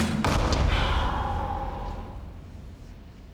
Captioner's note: Joe sighing